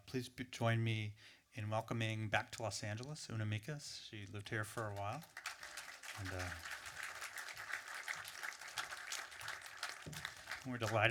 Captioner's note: applause